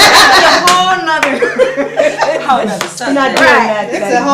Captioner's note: audience laughter